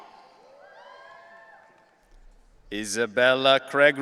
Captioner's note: audience cheering